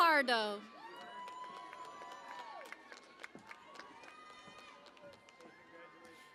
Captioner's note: cheering and Applause